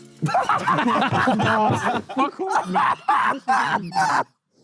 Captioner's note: Sidemen laugh; JJ laughs